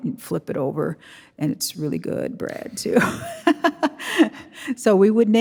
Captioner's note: chuckles